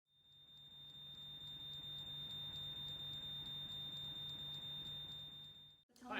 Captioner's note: sound of a smoke alarm beeping